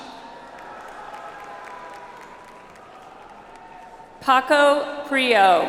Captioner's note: audience applauds